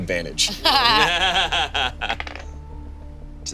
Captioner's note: all laugh